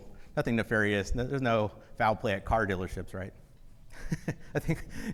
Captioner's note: laughs